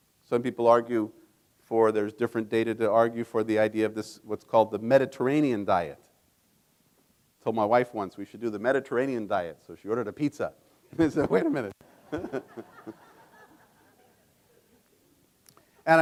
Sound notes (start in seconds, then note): 11.9 laughs; 13.9 audience laughing